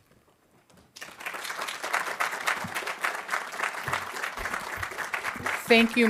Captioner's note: audience applauding